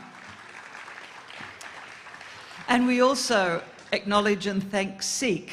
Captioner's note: applause